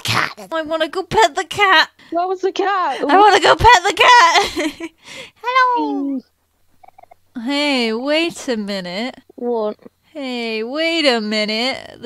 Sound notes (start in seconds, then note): 5.5 laughs